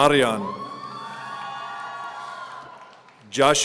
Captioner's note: audience cheering